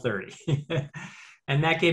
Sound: laughs

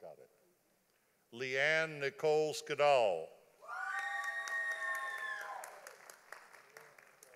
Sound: audience applauding

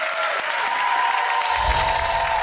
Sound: applause; playful chiming

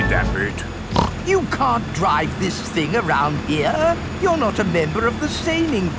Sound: snorts

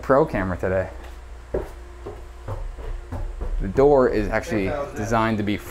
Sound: heavy footsteps

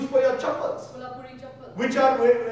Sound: speaking in foreign language; Sagarika speaking in foreign language

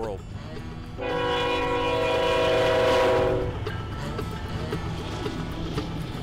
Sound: train whistle

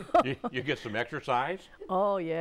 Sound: laughing

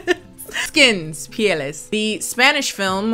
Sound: speaks Spanish

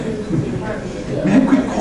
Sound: class laughs

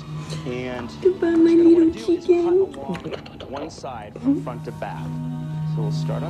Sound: kissing noises

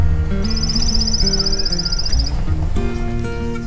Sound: bird chirping

